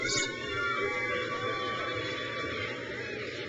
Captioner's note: crowd cheers